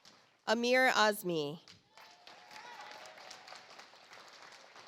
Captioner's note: audience applauds